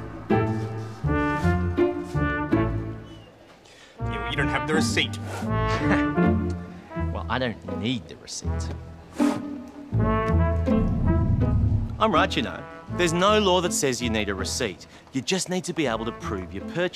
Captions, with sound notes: Yeah, but you don't have the receipt. (Laughs) Well, I don't need the receipt. I'm right, you know? There's no law that says you need a receipt. You just need to be able to prove your purchase.